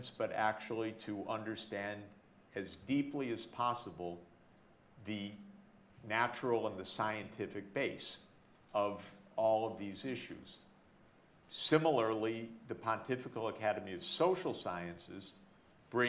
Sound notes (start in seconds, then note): none